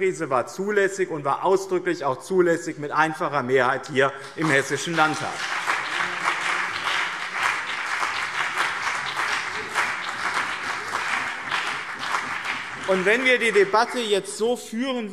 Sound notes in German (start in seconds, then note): 5.9 Beifall BÜNDNIS 90/DIE GRÜNEN und CDU